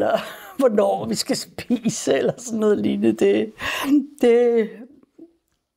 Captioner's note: chuckles